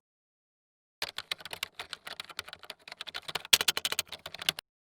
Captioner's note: keys clicking